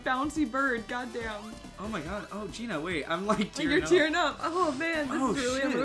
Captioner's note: sniffling